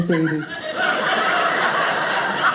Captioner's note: audience laughing